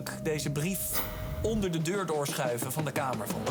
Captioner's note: whispering